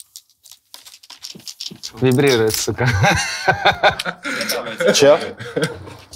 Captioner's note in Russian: смех